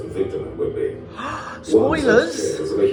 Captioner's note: gasp